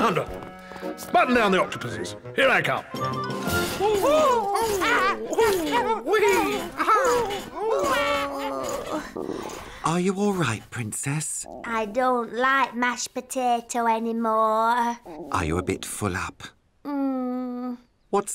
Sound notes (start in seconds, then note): 3.8 both whoop; 8.5 groans